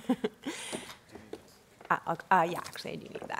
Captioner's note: laughing